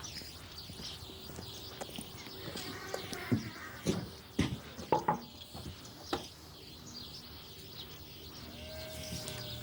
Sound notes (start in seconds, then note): 4.9 knocking